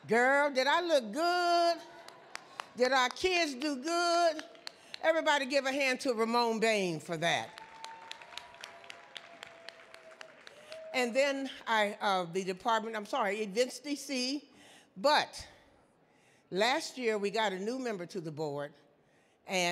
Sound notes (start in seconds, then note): 7.4 audience clapping